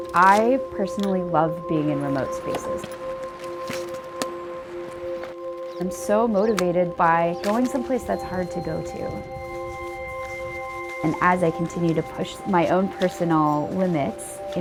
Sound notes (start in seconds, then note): 4.3 boots clicking into skis